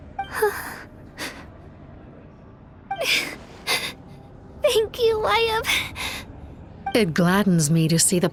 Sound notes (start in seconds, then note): 3.6 sobbing